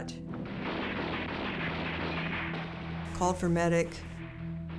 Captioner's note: gun shots